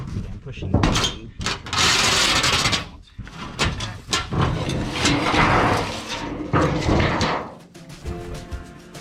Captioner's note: metallic banging noises; that sound a Transformer makes when it's being destroyed in a Michael Bay movie